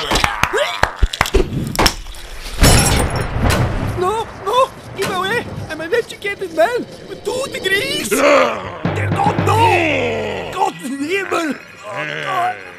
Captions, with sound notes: [SPLAT] [DOUBLE SPLAT] No, no! Keep away! I'm an educated man, ...with two degrees! Dear god, NO! [SWEARS IN GERMAN]